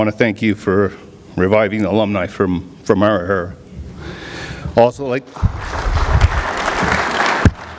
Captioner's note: clapping